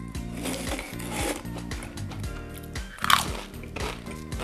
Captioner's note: Truman munching